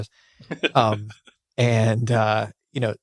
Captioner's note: laughing